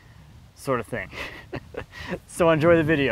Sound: laughing

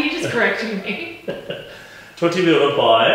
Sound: both laughing

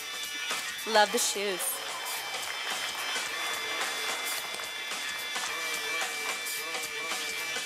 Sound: sound of applause from audience

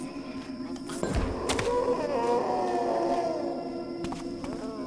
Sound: apparition death moan

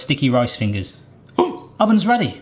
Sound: oven beeps

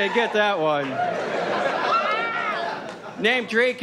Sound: audience laughs

